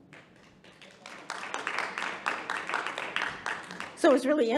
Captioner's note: audience applauding